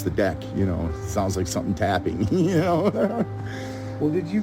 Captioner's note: laughs